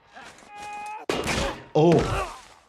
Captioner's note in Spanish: ruido metálico